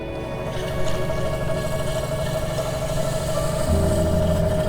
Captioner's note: wheel spinning